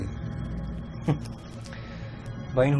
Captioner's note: chuckles